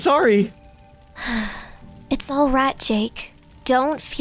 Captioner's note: sigh